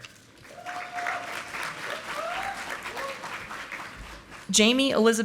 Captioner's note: audience applauding